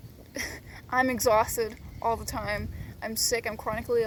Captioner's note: chuckles